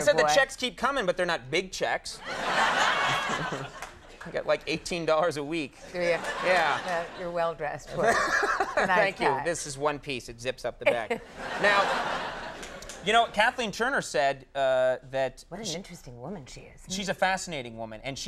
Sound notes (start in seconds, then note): 2.2 audience laughing; 7.9 Conan laughing; 11.2 audience laughing